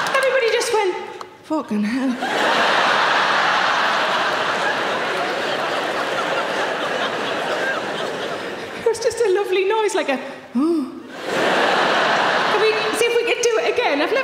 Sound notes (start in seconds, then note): 2.2 audience laughing; 11.1 audience laughing